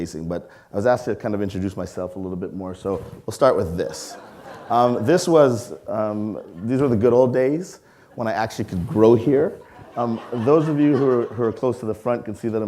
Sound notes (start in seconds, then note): 3.9 audience laughing; 9.8 audience laughing